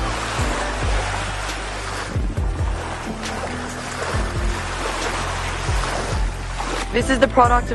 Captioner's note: background music; waves lapping on shore